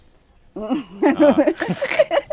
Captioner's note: laughs